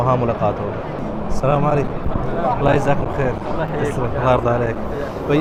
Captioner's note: Arabic